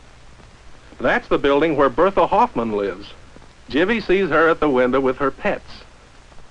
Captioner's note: none